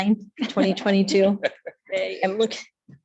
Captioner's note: laughs